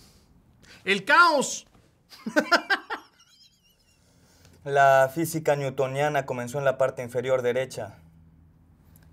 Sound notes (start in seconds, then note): 2.1 laughter